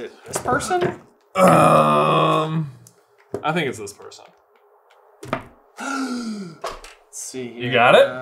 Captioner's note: gaaaaaaaaaaaaaasp